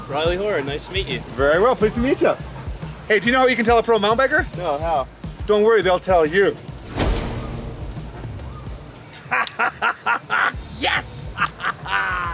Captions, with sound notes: Rilley Horan nice to meet you very well please to meet you hey do you know how you can tell a pro Mountain biker ? don't worry they'll tell you ! [laughts] YES